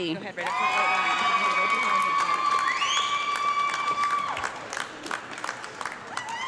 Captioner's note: audience clapping and loud screaming